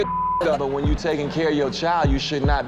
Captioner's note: beep